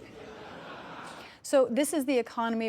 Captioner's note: laughter